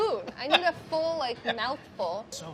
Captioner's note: laughing